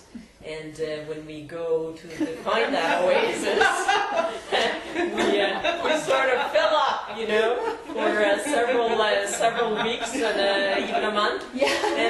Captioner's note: group laughs